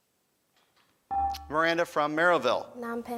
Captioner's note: beeping